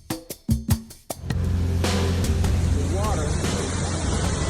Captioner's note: water rushing